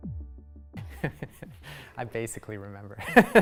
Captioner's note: laughs